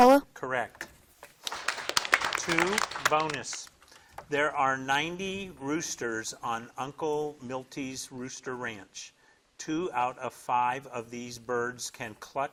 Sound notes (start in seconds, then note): 1.4 audience applauding